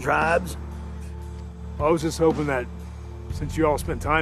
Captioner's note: none